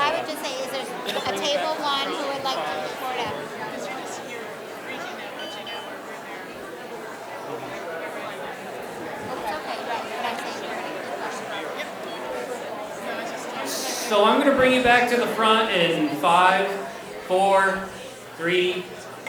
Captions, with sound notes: Well, I would just, is there, at table one, who would like to report out? [woman quietly speaking] So, I'm gonna bring you back to the front in five, four, three, two, one.